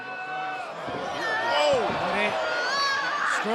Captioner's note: cheers and applause